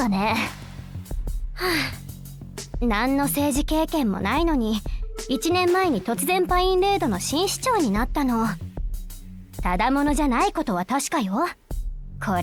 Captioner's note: sigh